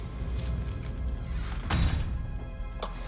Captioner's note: door closes; whispering